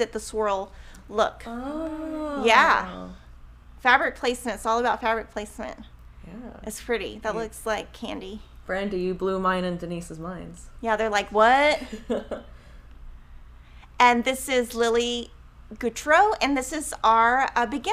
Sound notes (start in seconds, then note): 11.7 laughing